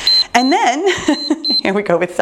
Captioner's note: timer beeps